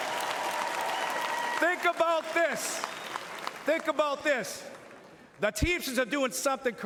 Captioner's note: cheering and Applause